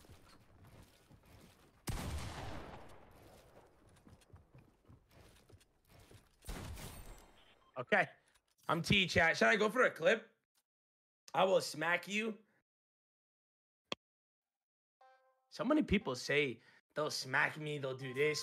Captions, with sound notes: (gun firing loudly) Okay. I'm T chat, shall I go for a clip? I will smack you. So many people say they'll smack me, they'll do this.